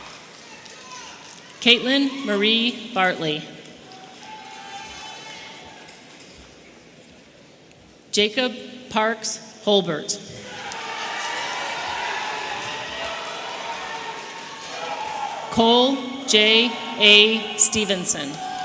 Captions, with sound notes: Katelyn Maree Bartley. Jacob Parks Hulbert. (audience cheering) Cole J.A Stevenson.